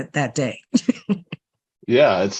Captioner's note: laughs